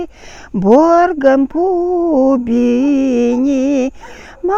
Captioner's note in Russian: дыхание